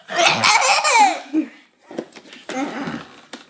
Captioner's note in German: lacht